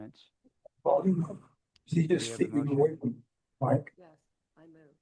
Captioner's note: chatter